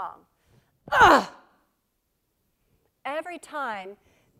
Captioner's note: groans